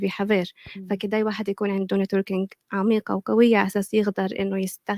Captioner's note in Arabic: لغة أجنبية